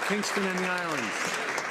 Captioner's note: some Applause